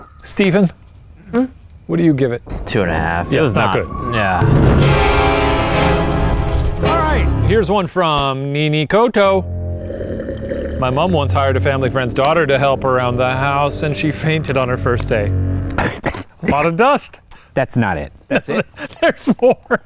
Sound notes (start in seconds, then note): 4.9 suspenseful music; 15.8 coughing; 18.3 laughs